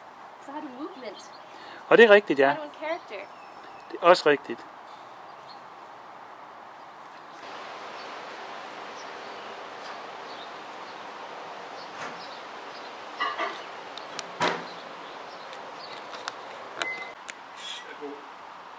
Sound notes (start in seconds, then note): 11.6 sounds from the kitchen; 15.5 camera rustling; 17.0 bird screech